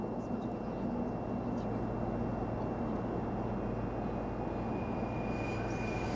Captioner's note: passengers chattering; plane humming; plane booming